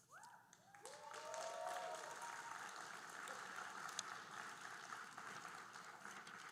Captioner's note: audience cheering and applauding